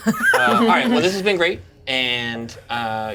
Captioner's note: Certainty laughs